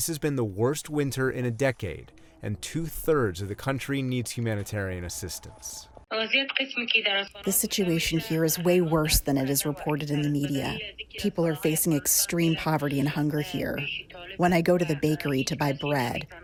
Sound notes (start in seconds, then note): 6.0 through translator